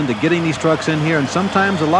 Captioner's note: voiceover